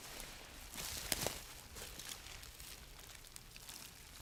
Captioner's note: bag rustling